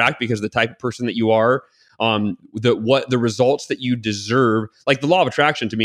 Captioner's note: none